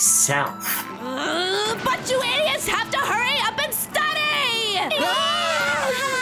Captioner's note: growling; all exclaiming